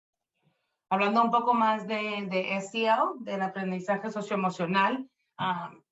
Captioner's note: speaking Spanish